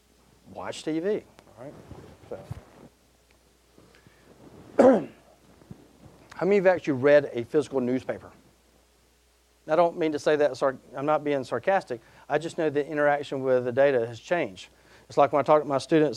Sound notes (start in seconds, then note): 4.8 clearing throat